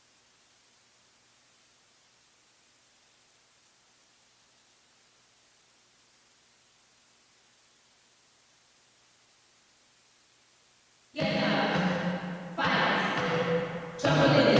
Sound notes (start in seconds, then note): none